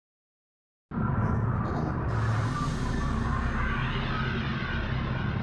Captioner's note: ominous wind howling